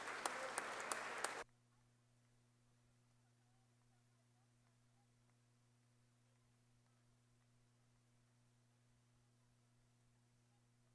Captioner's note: applause